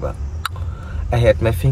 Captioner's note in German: Zungeschnalzen